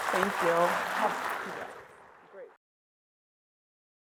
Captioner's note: audience clapping